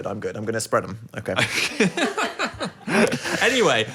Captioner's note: laughs